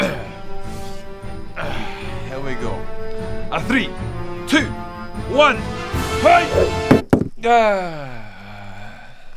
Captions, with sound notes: here we go 3 2 1 Hyoigh! *thunk* Ahhhhh.........